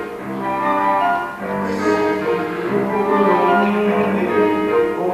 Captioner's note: none